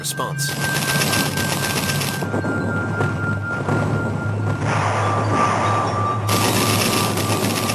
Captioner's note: chiming music; guns firing rapidly